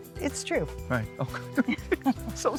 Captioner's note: laughs